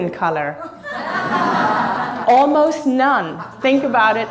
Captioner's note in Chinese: 哈哈哈